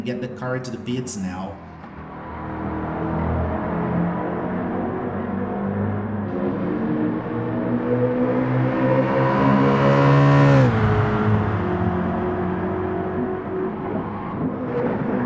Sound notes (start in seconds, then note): 1.8 engines revving, cars noises